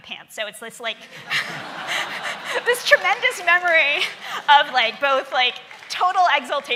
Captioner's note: laughing